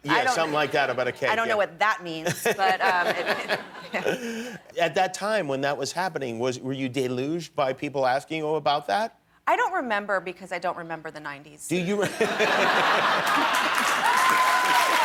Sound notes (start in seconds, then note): 5.2 laughter